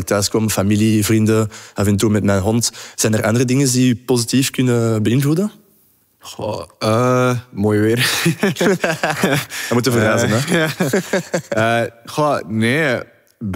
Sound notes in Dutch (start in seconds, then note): 8.0 gelach